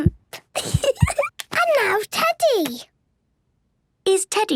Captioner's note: giggles